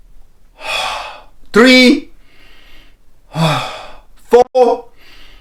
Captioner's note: inhaling and exhaling